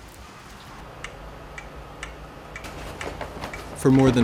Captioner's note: clock tick tocks